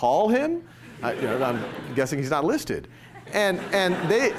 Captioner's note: laughter